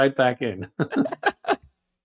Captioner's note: laughs